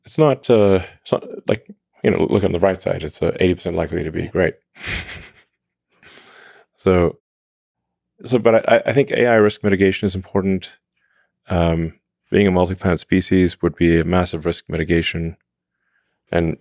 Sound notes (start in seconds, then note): 4.8 laughs